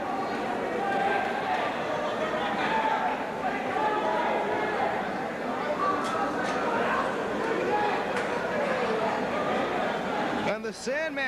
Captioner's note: crowd chatter